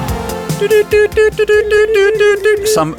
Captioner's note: morse Code noises